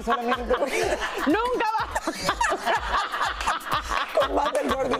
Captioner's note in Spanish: risas